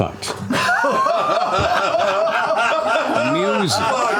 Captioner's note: laughter